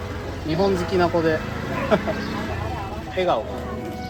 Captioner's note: laughs